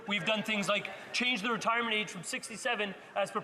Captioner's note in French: voix de l'interprète